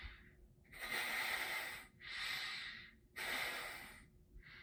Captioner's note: nose sniffing